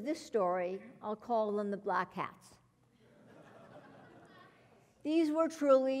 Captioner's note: laugh